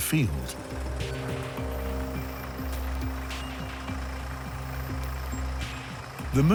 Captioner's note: tractor engine noise